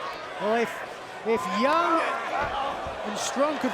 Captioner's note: fans chattering